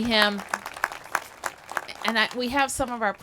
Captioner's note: applause